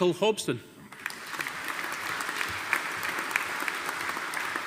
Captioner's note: audience applauding